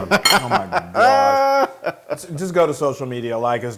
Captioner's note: laugh